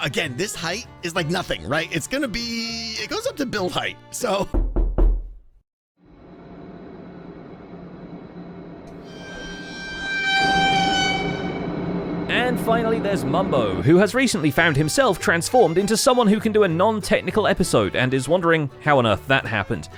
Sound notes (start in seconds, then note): 4.5 knocking; 6.2 tense echoing; 10.1 horror sting